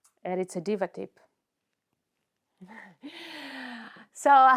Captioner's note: more awkward silence; delirio of awkward silence